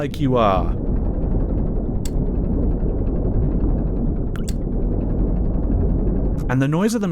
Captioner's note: submarine propellor whirring; heavy whooshing